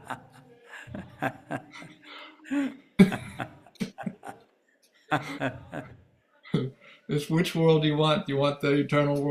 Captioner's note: laughs heartily